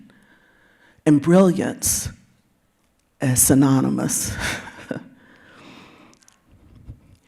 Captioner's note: chuckles